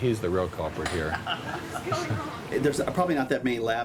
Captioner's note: laughs